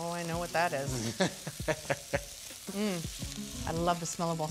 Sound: laughing

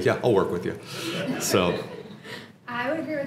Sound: laugh

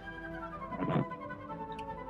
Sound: creaking

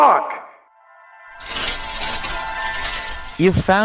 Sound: leaves rustling; happy chiming

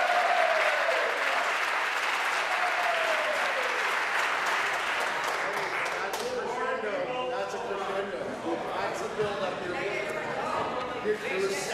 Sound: applause

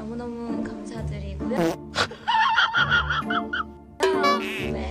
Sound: laughing

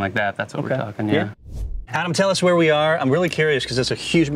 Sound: air swooshing

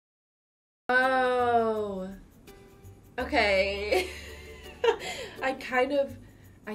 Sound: laughs

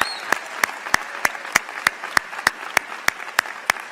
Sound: applause

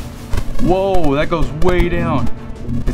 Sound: buzzes

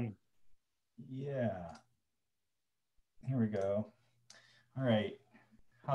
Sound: mouse clicking

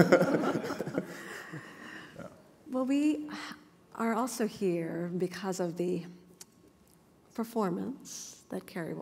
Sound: laughter

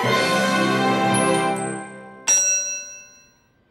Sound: a bell dings

